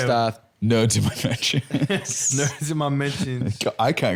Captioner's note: laughs